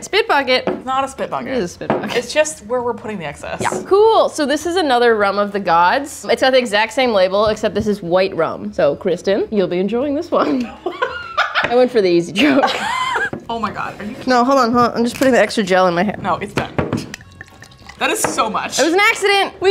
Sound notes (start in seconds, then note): 10.5 both laughing; 17.0 bottle seal cracking